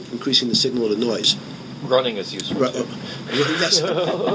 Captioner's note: laughing